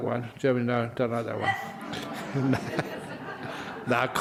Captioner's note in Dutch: lachen